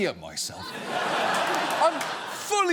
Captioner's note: audience laughs